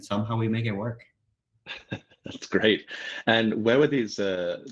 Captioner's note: laughs